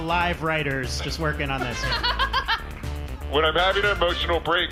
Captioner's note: audience laughing